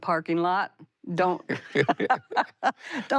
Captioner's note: both laugh